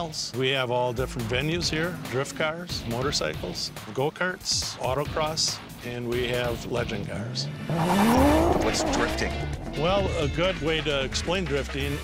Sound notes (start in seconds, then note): 7.0 engine revving; 7.3 tires screeching